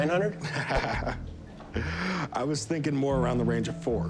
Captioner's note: laughs